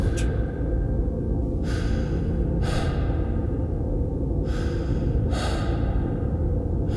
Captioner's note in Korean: 거친 호흡 소리